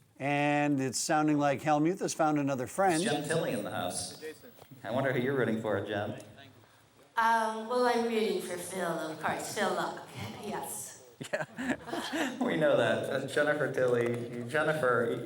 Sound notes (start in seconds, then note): 11.2 chuckle